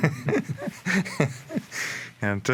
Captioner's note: all laughing